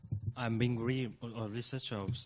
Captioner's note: voiceover